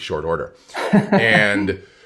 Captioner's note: laughs